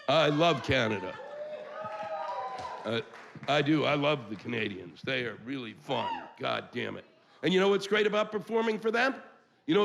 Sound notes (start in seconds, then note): 1.8 cheers